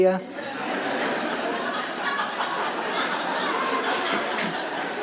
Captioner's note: audience laughing